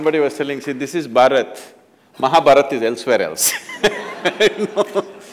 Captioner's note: laughter